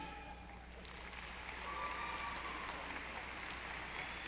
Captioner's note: audience applauding